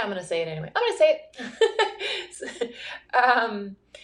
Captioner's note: laughing